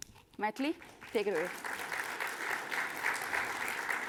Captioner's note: applause